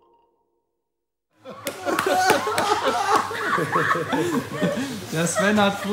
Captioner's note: laughter